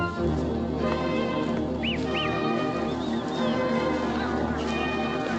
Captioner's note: cattle mooing; men whistling